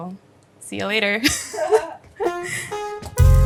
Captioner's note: chuckles; tranquil ambient music